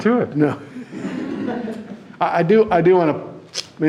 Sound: audience laughing

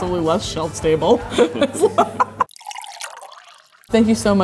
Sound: liquid pouring

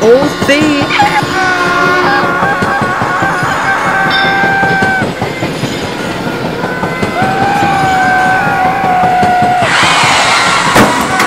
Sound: all panic & screams

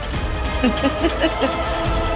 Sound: evil laughter

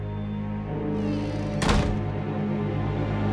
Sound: door shutting

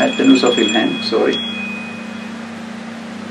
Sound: watch rings…

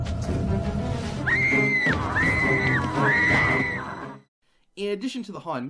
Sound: Carly screams

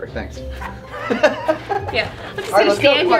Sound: happy laughter

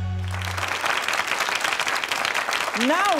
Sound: audience claps

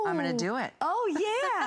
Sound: laughter

